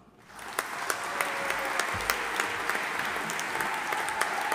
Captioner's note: audience applauding